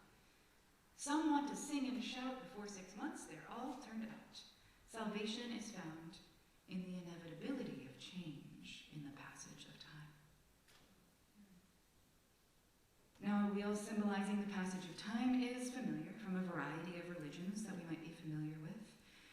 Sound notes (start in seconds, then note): 10.9 silence